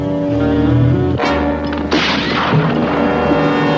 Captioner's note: gunshot